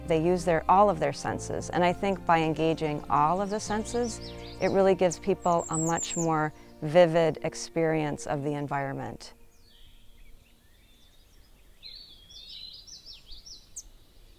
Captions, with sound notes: they use all of their senses. And I think by engaging all of the senses it really gives people are much more vivid experience of the environment. [BIRDS CHIRPING]